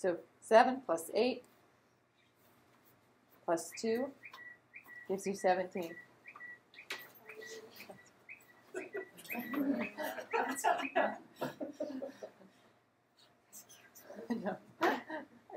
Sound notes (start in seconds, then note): 8.4 tweeting sound, phone ringing; 14.7 laughter